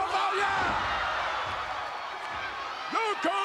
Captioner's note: spectators cheering